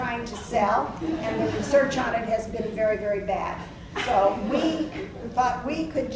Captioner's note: laughs